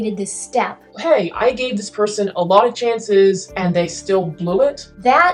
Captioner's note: low voice